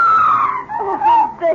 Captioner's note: screaming